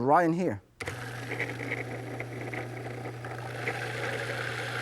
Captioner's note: blender buzzing